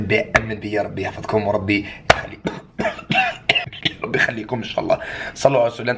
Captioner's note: cough